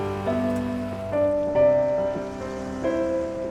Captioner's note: car drives away; car starts